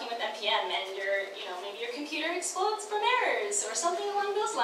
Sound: none

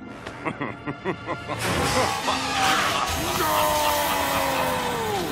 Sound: laughing

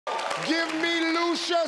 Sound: people clapping

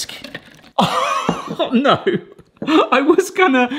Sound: laughs

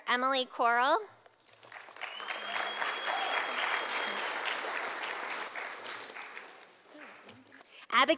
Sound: sound of applause from audience

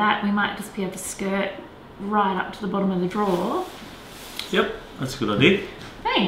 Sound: none

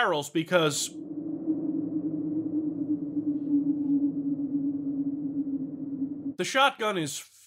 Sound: cold, creepy wind sound

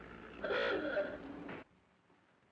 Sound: car honks

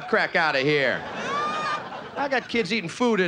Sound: audience laughing

